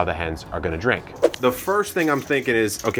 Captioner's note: whooshing